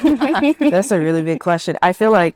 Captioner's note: participants laugh